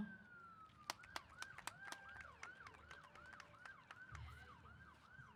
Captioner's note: applause